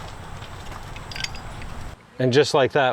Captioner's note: metals clanking